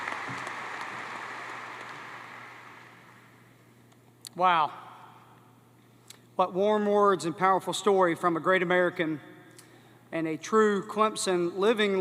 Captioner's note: applause